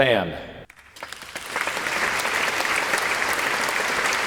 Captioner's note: people applauding